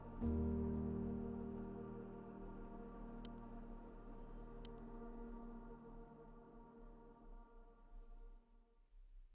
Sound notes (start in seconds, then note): 0.2 gentle music; 4.6 mouse clicking